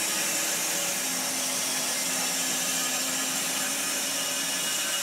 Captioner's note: saw whirring